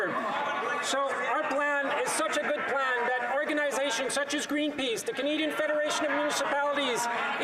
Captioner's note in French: voix de l'interprète